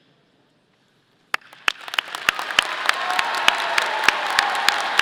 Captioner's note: audience applauding